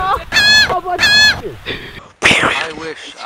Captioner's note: noot